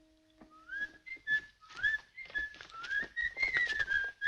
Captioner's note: boys whistling